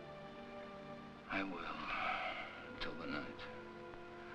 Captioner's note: sighs